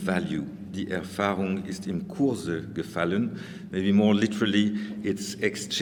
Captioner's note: speaking german